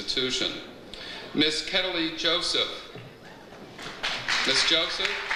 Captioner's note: audience applauds; audience cheers